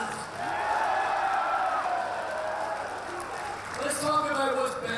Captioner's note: crowd continues cheering